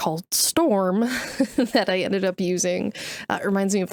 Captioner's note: chuckles